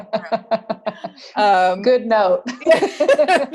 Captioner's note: laugh